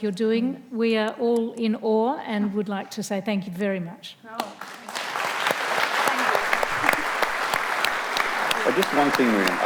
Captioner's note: audience applauds